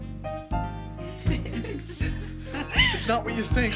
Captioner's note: giggling